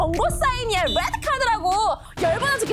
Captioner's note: whistle sound